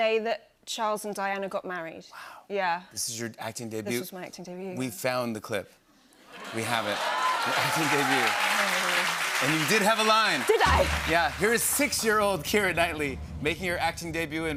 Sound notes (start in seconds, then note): 6.4 cheers and applause